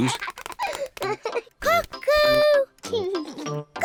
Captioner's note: laughs; laughs